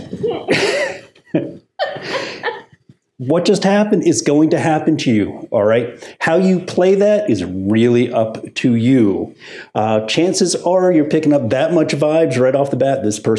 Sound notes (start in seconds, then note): 0.3 chuckles; 1.8 customer laughing